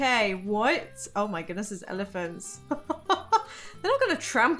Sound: laughs

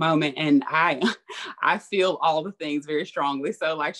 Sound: laughs

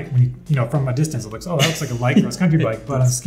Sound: laughs

